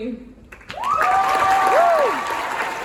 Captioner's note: applause; offstage voice yells